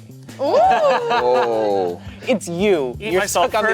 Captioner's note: laughing